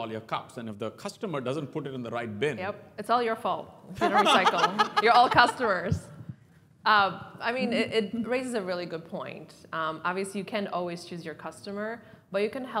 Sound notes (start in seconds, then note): 4.0 laugh